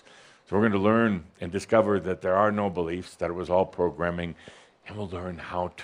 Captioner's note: none